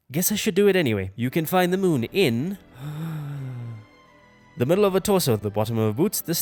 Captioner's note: deep breath